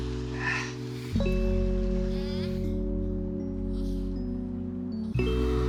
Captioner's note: person breathes heavily